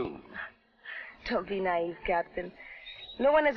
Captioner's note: laughs